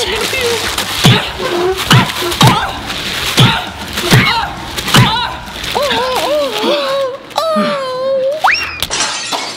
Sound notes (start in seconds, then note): 1.7 package thudding; 6.9 whining